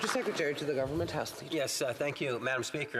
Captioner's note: some Applause